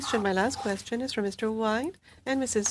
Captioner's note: speaking French